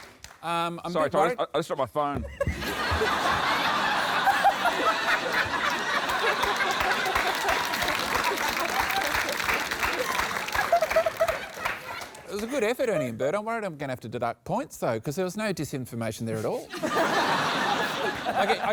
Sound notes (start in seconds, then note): 2.2 laughter; 7.7 applause; 16.7 laughter